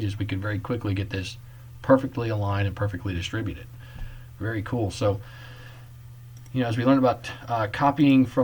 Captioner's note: click